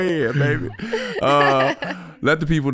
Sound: all laughing

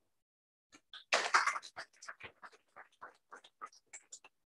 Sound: applause

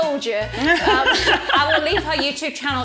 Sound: laughs

